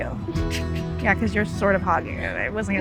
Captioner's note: chuckles